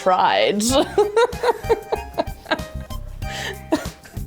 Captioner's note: laughing